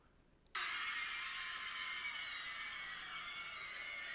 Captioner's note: crowd screaming